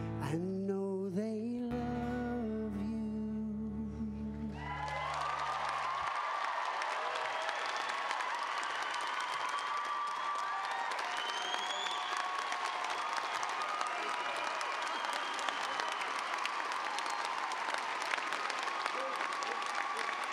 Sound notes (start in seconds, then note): 4.4 cheers and applause